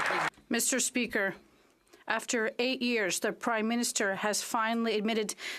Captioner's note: some Applause